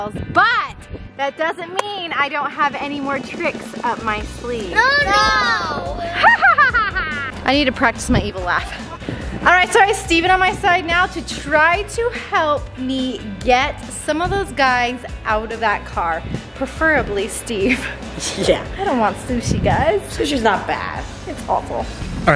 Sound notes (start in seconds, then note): 5.0 loud moaning; 6.0 evil laughter